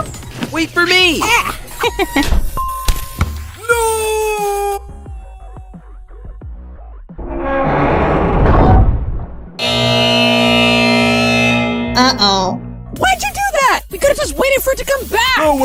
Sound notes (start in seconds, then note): 7.2 distant sound of metal being distorted; 9.6 loud emergency beep